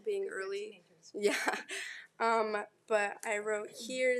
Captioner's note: laughs